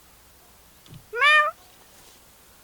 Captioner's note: meow